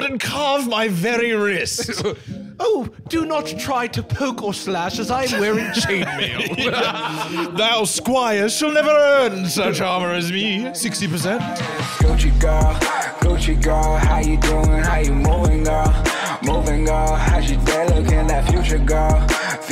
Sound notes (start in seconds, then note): 5.2 laughs; 10.6 outro music